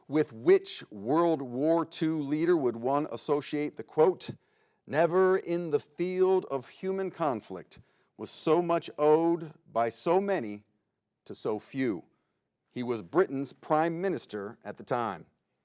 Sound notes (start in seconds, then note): none